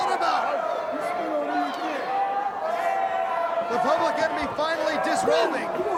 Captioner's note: crowd chatter